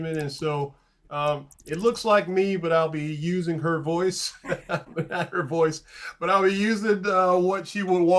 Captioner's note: light laughing